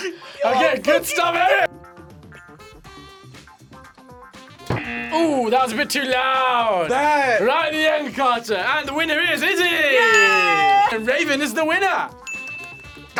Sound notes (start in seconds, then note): 4.6 buzzer; 12.2 bell rings